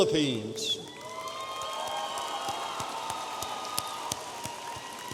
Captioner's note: audience applauding